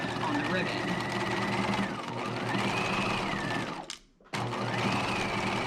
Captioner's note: sewing machine whirring